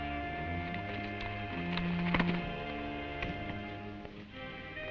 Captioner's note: hooves clopping